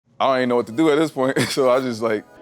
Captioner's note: laugh